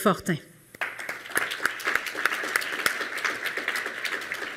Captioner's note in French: Applaudissements